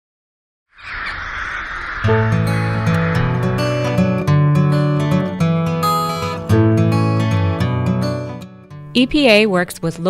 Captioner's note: birds chirping, music